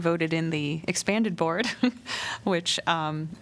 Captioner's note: laughter